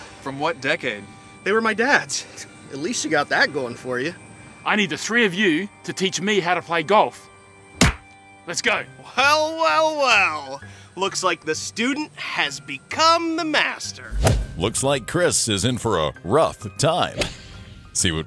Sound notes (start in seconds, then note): 7.8 hands Clap; 14.2 golf Club Thwacks